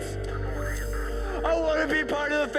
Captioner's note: police radio